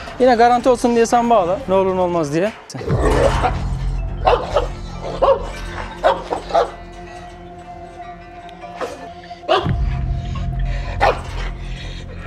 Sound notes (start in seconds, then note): 2.8 barking, growling sounds and tense music